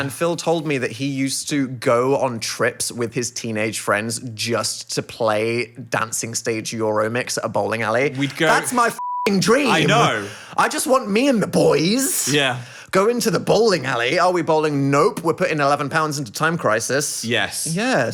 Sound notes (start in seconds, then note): 8.6 beeping